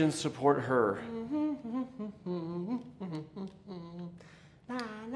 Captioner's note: humming